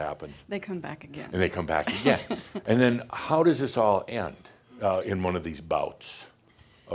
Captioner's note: she chuckles